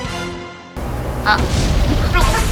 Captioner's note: sigh